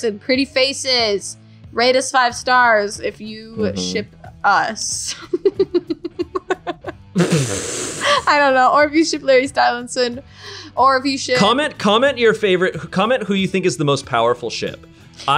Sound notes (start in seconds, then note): 5.1 giggling